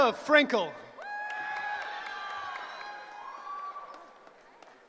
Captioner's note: cheering